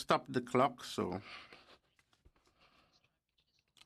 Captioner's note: speaking French